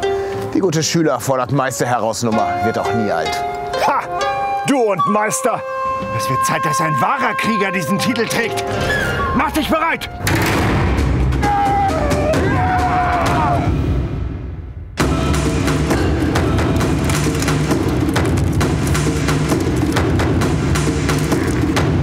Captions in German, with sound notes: Die gute Schüler-fordert-Meister- heraus-Nummer wird auch nie alt. Ha, du und Meister? Es wird Zeit, dass ein wahrer Krieger diesen Titel trägt. Mach dich bereit! *Kampfgeschrei* *Trommelmusik*